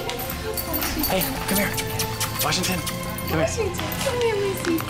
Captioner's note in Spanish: Sonidos de besos